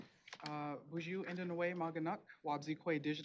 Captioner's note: speaking Native language